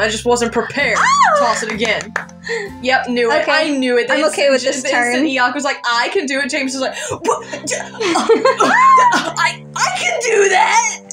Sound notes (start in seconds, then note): 1.0 excited Squeal; 7.1 guffawing; 7.7 squealy Laugh